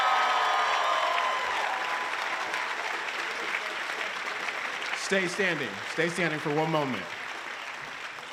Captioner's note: applause